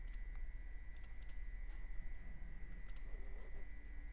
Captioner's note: clicking